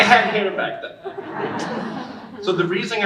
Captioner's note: audience laughing